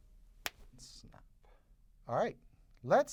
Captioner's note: snap